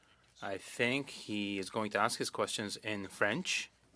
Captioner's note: speaking French